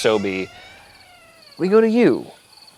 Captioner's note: door squeaks